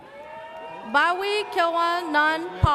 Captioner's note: audience cheers